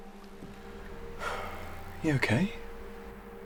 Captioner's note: sighing